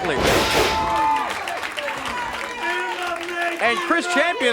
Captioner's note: body thuds